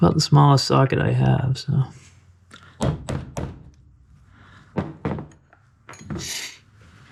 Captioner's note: hammering